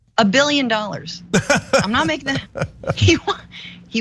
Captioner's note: laugh